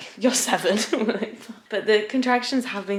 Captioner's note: laughs